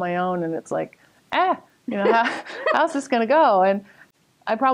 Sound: laughter

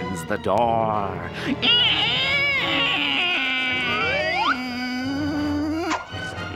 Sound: creaking

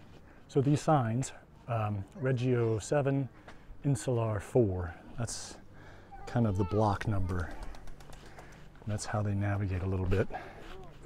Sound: background chatter

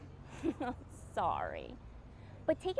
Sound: laughs

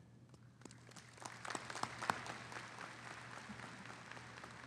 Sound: audience applauding

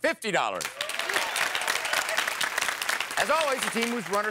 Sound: applause

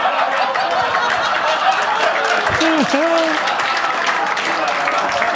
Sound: audience laughing; audience applauding

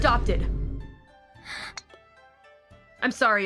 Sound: gasp

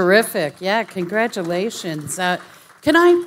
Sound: audience applauding

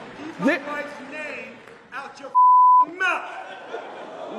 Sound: beep

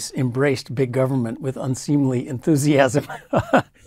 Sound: laugh

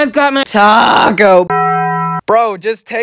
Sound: Taco Bell bong sound

